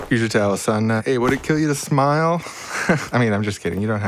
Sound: chuckles

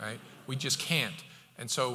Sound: audience chuckles

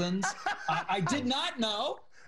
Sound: laughing

